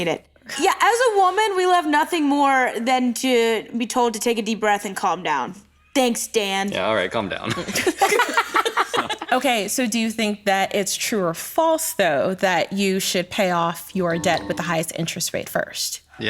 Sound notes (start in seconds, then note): 7.5 all laugh